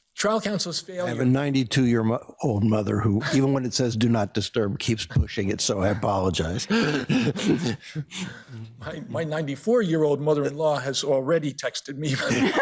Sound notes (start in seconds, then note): 6.6 laughs; 12.1 all laughing